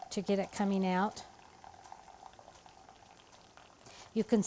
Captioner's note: liquid filling